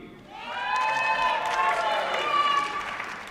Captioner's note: applause